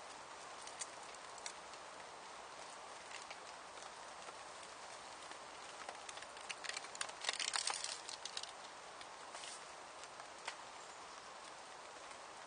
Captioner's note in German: Regengeräusche auf der Zeltplane